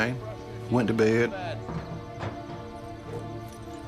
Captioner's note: banging, jingling